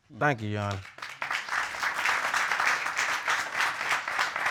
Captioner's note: audience applauding